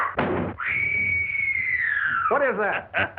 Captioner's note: screaming; maniacal Laughter